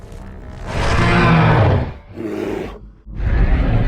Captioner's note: Godzilla roars in victory